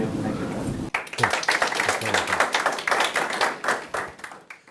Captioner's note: audience applauding